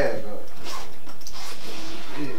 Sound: bag zipper

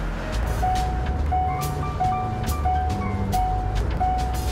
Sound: tone rings

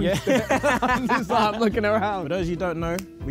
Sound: group laughs

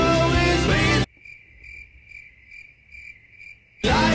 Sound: crickets

